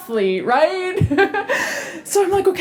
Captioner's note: chuckle